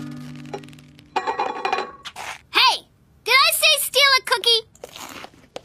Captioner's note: bowl rattling